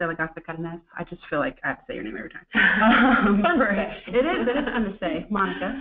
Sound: laughter

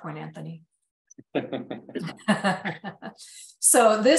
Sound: laughter

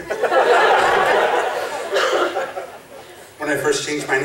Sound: laughing

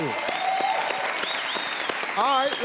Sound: audience cheers

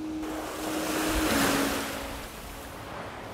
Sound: waves Crashing; gentle music

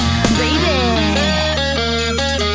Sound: hahahaha baby

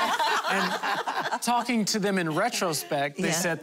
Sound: laughter

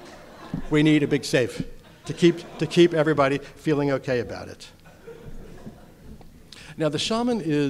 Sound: audience laughter

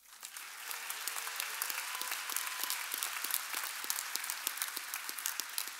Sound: audience applauding and cheering

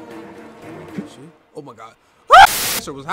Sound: screams; static

